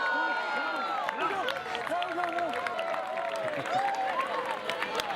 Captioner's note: crowd cheering